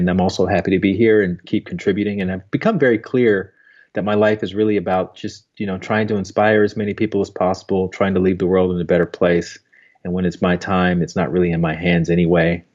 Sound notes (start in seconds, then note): none